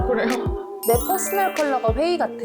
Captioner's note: falling in love sound effect